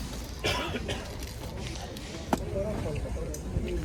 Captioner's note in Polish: kaszel